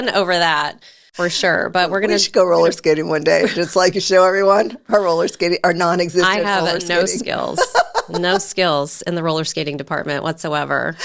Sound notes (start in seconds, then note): 4.4 chuckles; 6.0 laughs